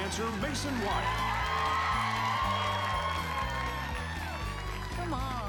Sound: cheering

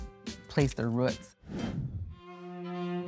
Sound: air whooshing; mellow classical music

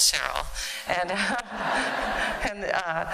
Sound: laughter

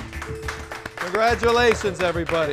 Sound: clapping

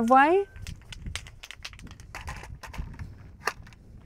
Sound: spray can rattles

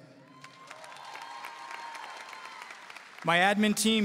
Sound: audience cheering and applauding

